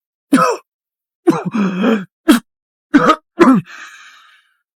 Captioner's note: cough cough